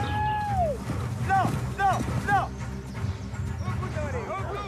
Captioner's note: shouting